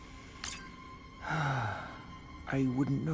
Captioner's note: sighs